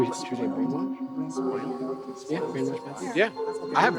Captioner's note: members chattering